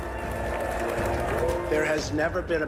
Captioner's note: crowd applauding